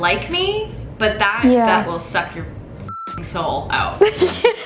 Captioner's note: beep; laughs